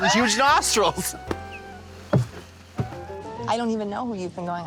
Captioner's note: blonde Women guffaw